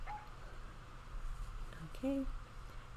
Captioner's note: Super Piggy barking